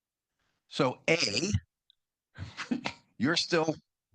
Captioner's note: laughs